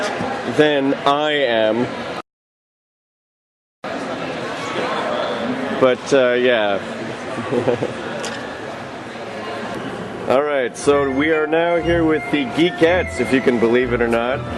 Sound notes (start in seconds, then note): 7.3 chuckles